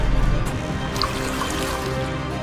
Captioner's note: splashing